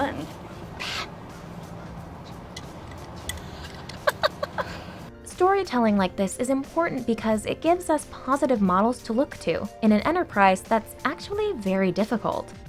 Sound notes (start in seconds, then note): 0.1 whispers; 3.4 laughs